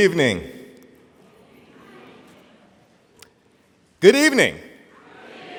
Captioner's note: audience quietly mumbling